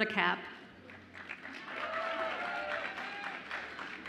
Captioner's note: audience applauds and cheers